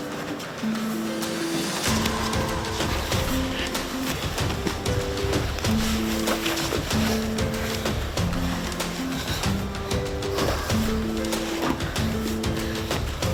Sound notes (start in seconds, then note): 3.2 both breathing heavily